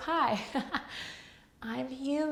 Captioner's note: laughs